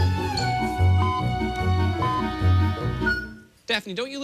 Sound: electronic beeping

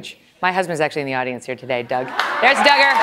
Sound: laughter

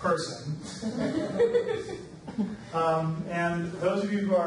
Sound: audience laughs

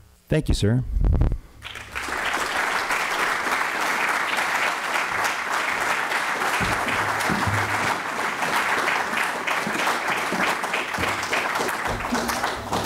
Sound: applause

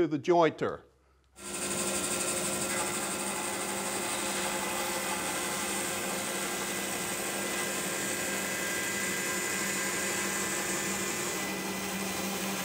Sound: machine sound

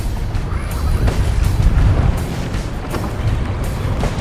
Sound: reel squealing

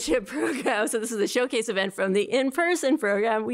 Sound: laughter

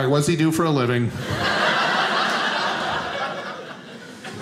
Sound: audience laughing

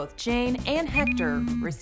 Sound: phone vibrates and rings

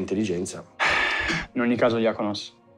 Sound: sighs

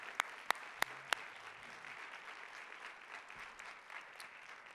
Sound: audience applauding

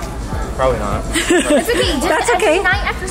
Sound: laughs

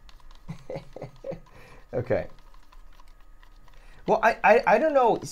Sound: chuckles

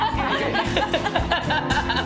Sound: laughter

